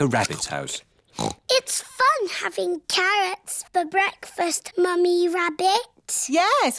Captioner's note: snorts